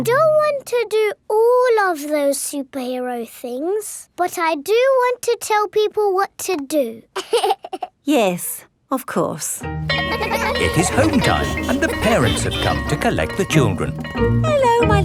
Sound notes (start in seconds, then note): 7.1 giggles; 9.8 school bell rings